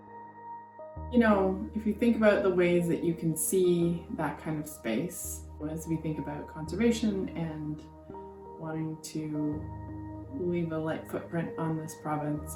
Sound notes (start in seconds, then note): none